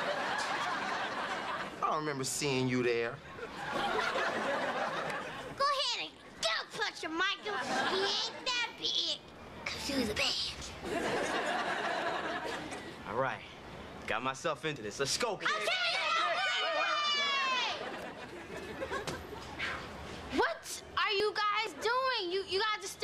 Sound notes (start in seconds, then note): 9.2 whispering; 15.4 cheering and yelling